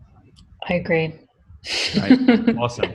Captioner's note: laughs